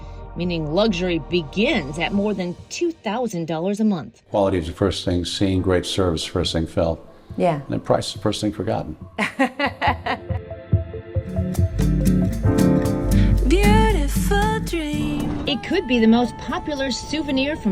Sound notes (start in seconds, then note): 9.2 laughing